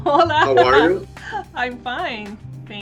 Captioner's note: laughs